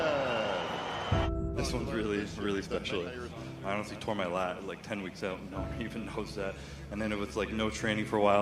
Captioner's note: cheers and Applause